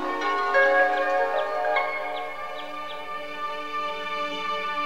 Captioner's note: birds chirping